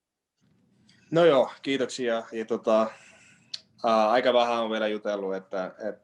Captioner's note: Joonas speaking Finnish